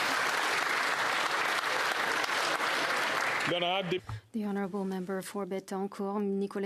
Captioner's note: applause